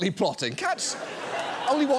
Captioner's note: audience laughs